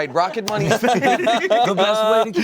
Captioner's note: laugh